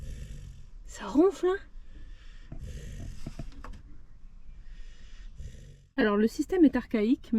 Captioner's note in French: Bruit de ronflement